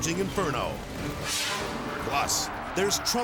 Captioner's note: graphics whooshing